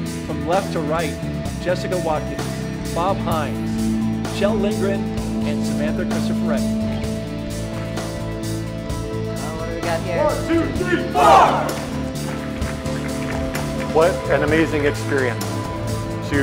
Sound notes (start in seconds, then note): 7.3 bright upbeat music; 11.0 audience applauding